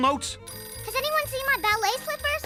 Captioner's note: phone ringing